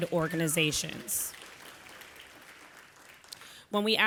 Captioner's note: audience applauding